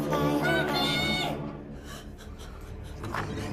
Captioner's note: whimpers; deep haunting music